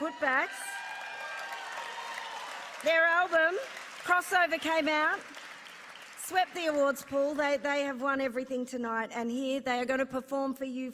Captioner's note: applause